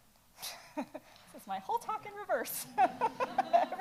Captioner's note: laughs